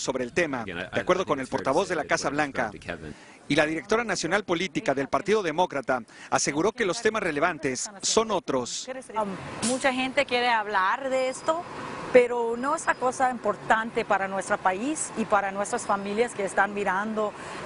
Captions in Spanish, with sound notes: (HABLANDO EN INGLÉS) LA PRIMERA DAMA NO QUISO HACER COMENTARIOS SOBRE EL TEMA, DE ACUERDO AL PORTAVOZ DE LA CASO BLAN CA Y LA DIRECTORA